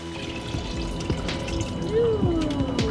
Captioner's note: water pouring